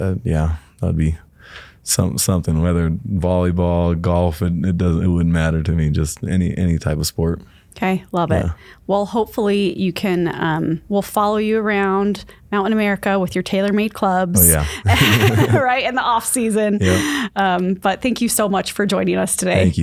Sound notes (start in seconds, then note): 14.4 laugh